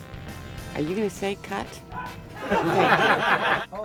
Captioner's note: laughter